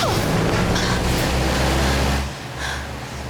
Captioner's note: heavy breathing